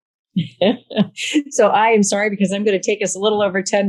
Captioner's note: laughs